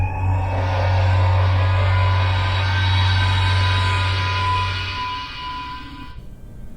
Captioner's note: Federation transporter buzz